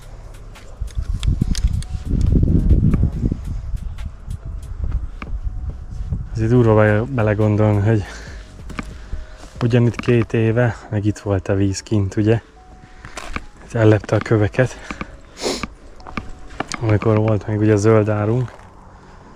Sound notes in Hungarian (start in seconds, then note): 15.3 horkantás